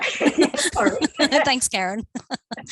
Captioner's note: laughing